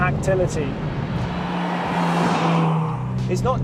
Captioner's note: engine revving